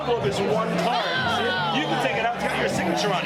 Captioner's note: group shouts